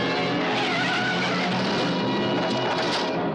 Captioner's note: tires squeal